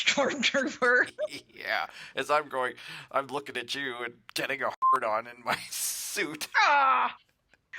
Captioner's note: laughing